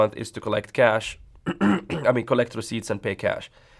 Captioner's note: throat clearing